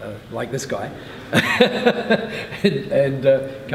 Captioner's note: laughing